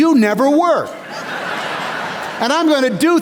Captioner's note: laughter